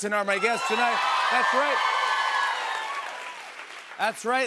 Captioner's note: cheers and applause